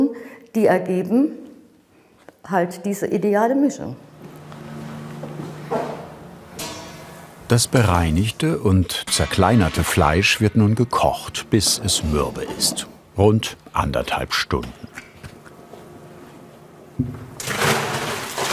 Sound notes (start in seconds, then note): 4.3 low whirring; 17.4 loud splashing